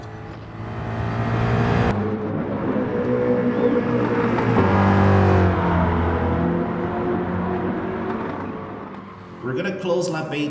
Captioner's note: engines revving, cars noises